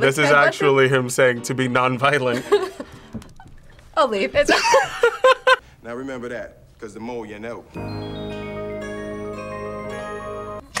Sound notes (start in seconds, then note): 5.1 laughs; 7.7 upbeat jingle